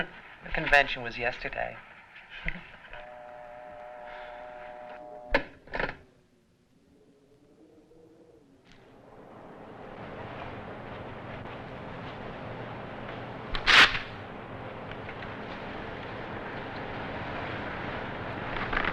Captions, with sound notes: The convention was yesterday. (paper tears)